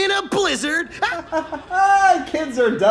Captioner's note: barking laughter